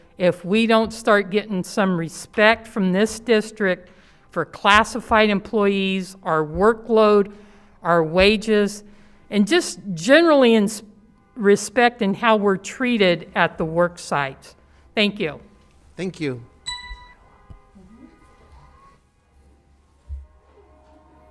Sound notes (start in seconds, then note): 16.6 alarm beeps